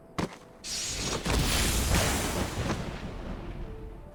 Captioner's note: gunshot